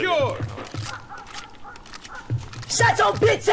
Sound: dog barking

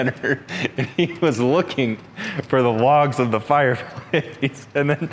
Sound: chuckles

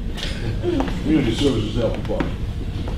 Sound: laughing

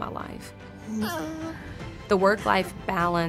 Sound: baby cooing

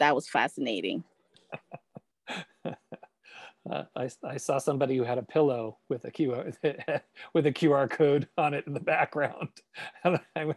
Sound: laughs

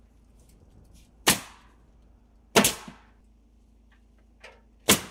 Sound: nail gun bangs

